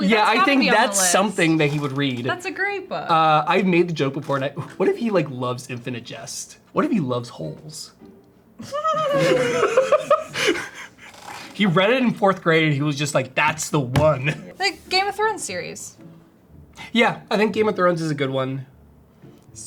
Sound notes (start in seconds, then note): 8.6 everyone laughing